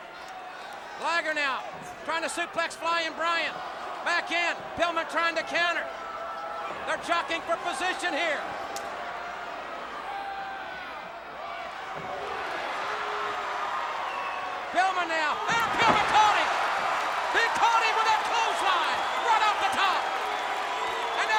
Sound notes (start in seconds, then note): 9.7 audience cheering